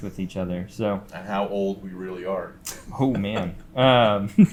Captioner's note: chuckles